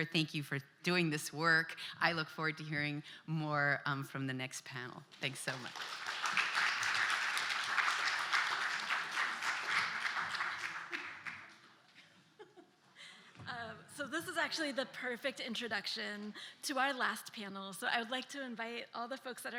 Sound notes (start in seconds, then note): 5.2 applause